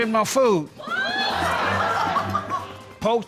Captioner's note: laughter